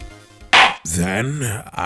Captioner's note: gavel slam!